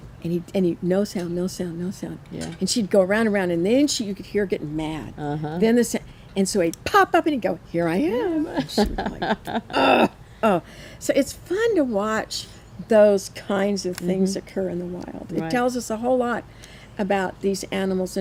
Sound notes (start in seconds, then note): 8.5 laughs; 9.7 groans